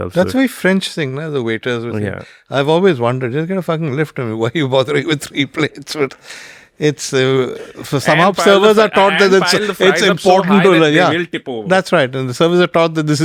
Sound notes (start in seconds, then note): 7.5 laughs